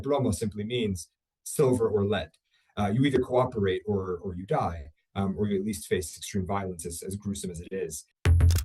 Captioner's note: speaking spanish